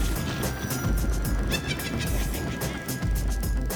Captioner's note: thunder; witch cackle